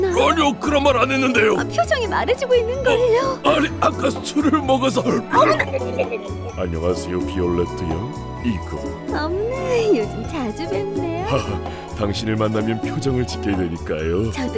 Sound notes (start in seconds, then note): 4.9 pukes; 11.2 laughs